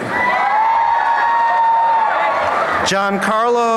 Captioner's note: applause and cheering